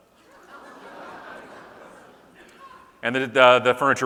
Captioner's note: audience laughing